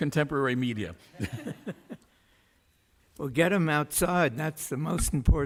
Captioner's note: laughs